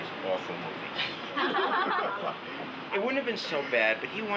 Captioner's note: laughing